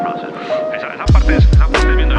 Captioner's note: speaking in foreign language